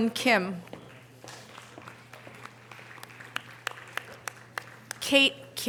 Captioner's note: audience applause